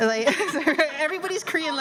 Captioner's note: laughter